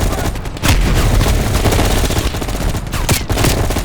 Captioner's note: gun fires